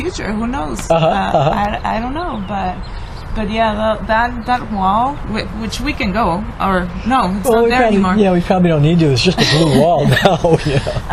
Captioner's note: laughs